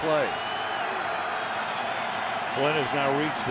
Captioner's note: cheering